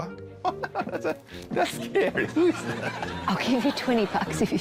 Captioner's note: laughs